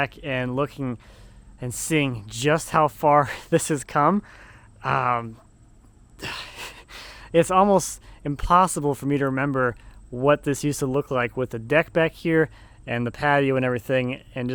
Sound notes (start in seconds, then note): none